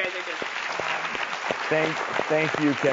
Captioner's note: clapping